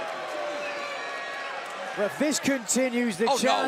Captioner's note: cheers and applause